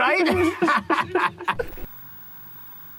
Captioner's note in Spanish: risas